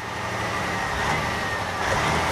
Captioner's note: engine Running